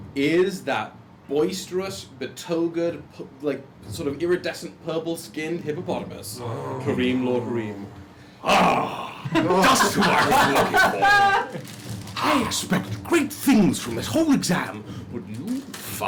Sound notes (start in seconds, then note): 8.3 groans; 12.2 laughter